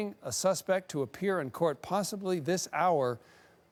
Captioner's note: none